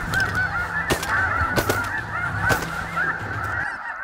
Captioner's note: gun shots